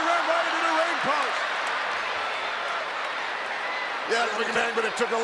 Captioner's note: audience cheers